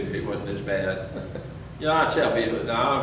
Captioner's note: chuckles